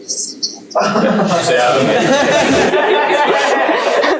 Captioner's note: laughter